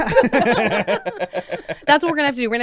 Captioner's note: laughs